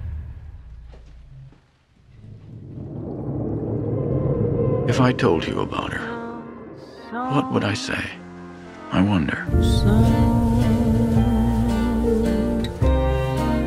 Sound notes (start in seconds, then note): 0.2 silence and running water; 2.1 underwater sounds